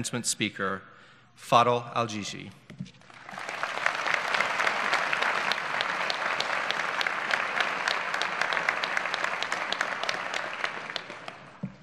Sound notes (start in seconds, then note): 3.0 applause